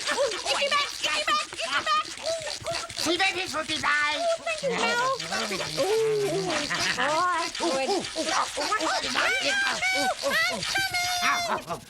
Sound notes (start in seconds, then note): 3.8 speaking gibberish